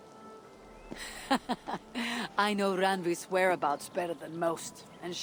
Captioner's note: laughs